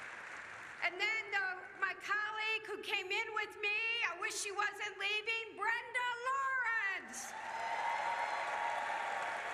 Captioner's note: applause